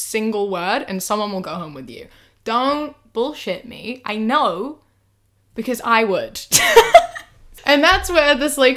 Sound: bursts out laughing

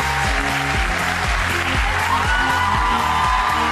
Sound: applause; cheering

